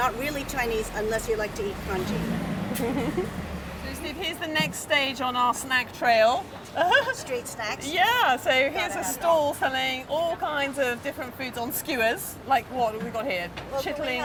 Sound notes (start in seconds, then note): 2.7 laughs; 6.4 laughs